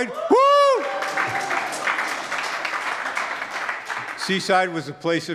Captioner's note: audience claps